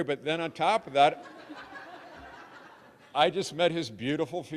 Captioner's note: audience laughing